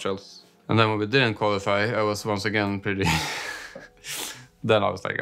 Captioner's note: laughs